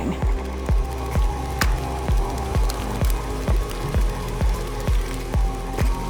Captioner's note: exciting music; mixer mixes